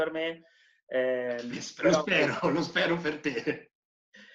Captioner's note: laughing